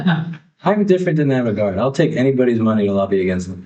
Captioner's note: all laughing